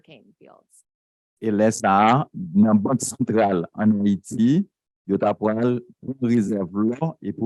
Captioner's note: speaking a foreign language